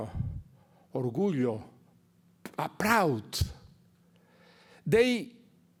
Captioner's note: speaks Spanish